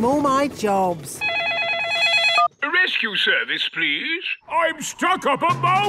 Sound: phone ringing

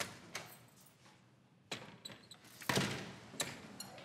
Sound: door closes

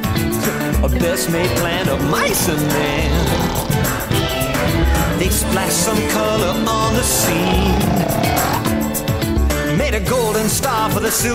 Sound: snoring

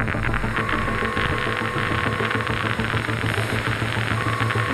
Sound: static crackling

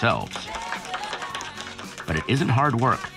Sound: applause

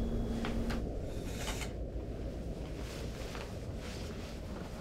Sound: curtain swishes

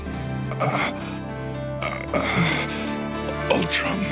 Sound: Optimus groans

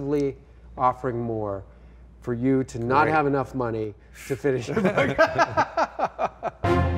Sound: laughing

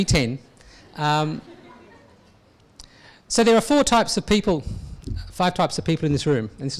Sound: audience laughs

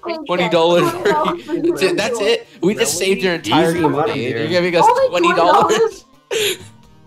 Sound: complaining

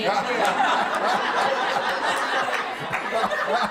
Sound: laughter

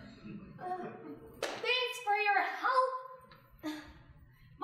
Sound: audience chuckling; loudly, sarcastic

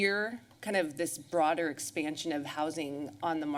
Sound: none

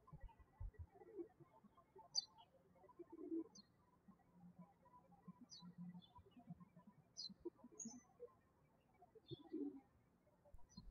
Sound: birds chirping

